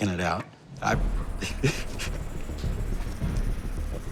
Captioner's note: laughs